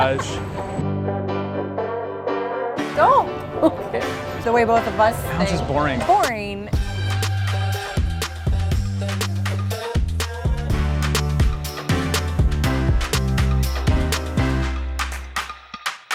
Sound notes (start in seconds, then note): 3.5 laughter; 9.3 upbeat music